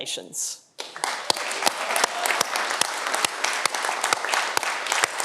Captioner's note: audience applauding